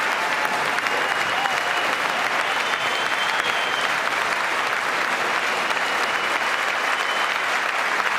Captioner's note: applause